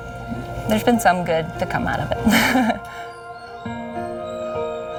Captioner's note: laughing